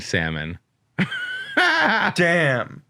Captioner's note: laughing